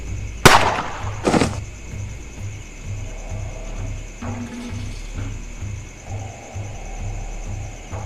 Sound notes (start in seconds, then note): 0.4 gun shoots; 0.9 body falls